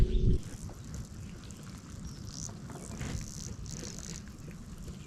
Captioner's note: boat scrapes against lily pads